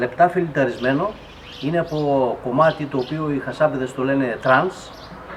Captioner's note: trance in Greek